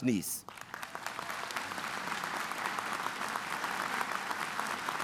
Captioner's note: audience applauding